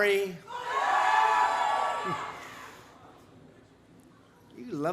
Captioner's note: applause